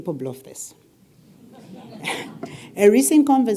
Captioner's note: laugh